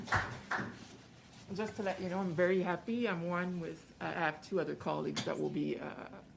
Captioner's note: some Applause